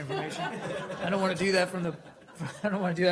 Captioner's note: laughter